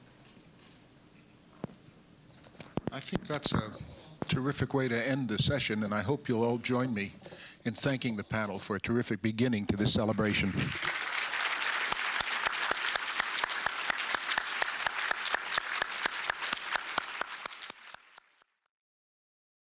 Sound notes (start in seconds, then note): 10.2 applause